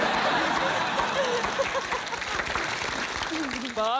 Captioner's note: laughter